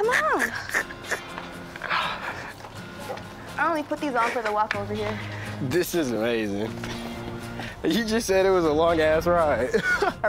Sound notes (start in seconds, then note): 0.0 laughing